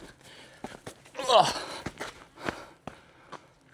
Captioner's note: grunting